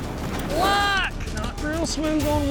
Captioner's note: yelling